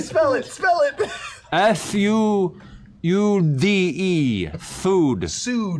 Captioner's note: slurred